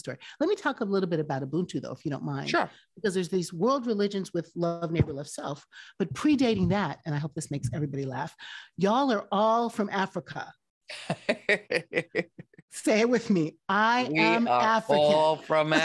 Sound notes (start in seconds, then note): 11.0 laughing